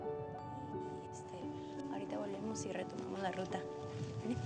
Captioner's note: speaking spanish